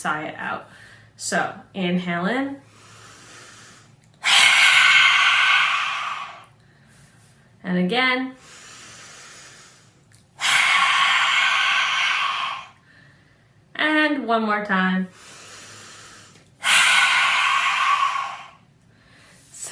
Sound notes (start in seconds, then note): 2.7 sigh; 10.3 inhale; 12.2 sigh; 15.1 inhale; 16.6 sigh